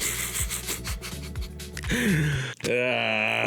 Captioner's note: cries